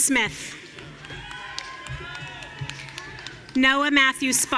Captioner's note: audience cheering